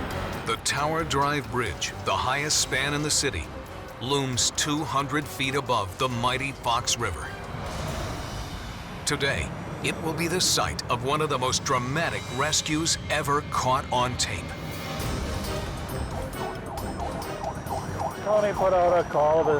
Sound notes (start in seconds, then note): 15.4 siren